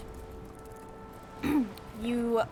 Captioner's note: clear's throat